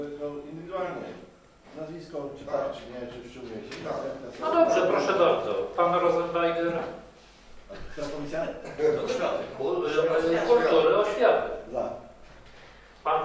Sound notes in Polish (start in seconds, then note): 1.6 Rozmowy w tle